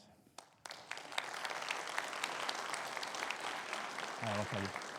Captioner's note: audience applauding